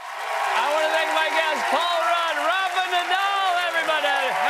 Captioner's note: cheers and applause